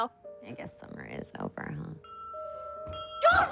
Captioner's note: les cloches sonnent